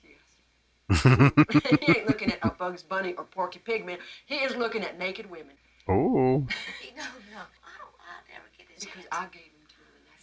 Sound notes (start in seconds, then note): 0.9 chuckling